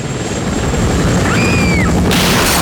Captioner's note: helicopter flying; screaming